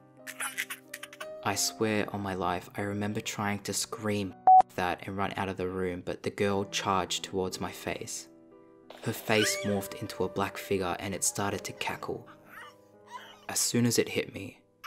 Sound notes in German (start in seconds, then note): 0.3 Gruseliges Kinderlachen; 4.4 Piep